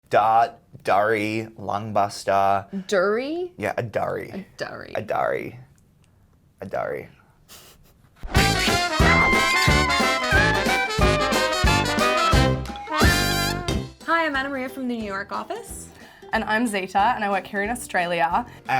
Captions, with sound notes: - Dart, durry, lung-buster. - Do-ree? - Yeah, a durry. - A durry. - A durry. A durry. (laughing) (upbeat music) - Hi, I'm Anamaria from the New York office. - And I'm Zeta, and I work here in Australia.